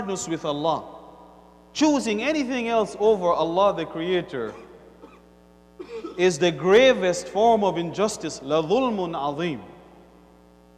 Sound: Arabic

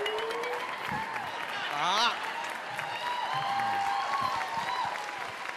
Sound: applause

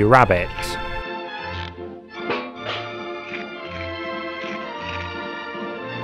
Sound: eating and trashing in time with music

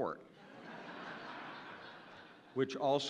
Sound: audience laughing

